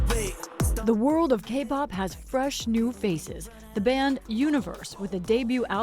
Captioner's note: voice-over